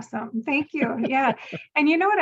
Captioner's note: laughing